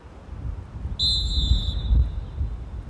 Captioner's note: referee blows whistle